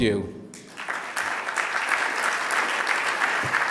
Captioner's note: applause